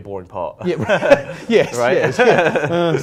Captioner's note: laughing